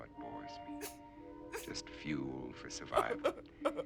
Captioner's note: laughing; crying